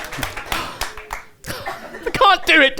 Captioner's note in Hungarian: lemondó sóhaj